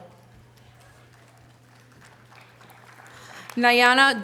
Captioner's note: audience applause